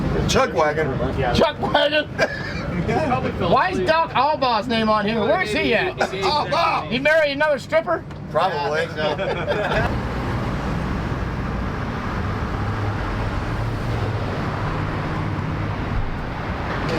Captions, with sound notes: - Chuck Wagon. - Chuck Wagon. (veteran laughing) Why is Duck Alba's name on him? Where is he at? He marry another stripper? - Probably. - Yeah, I think so. (traffic whirring)